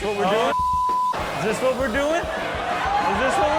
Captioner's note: beep; audience laughs